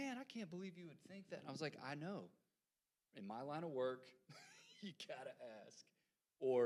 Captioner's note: laughs